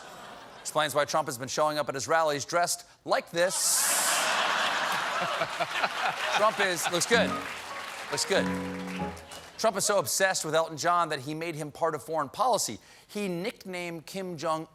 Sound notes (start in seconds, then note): 3.8 laughter; 4.5 piano riff